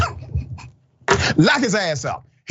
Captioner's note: laugh